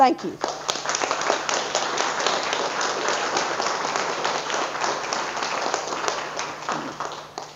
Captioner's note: audience applause